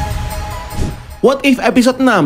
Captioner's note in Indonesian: suara transisi